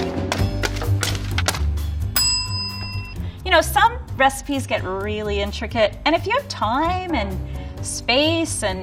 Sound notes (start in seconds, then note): 0.0 papers spiking; 2.1 bell dings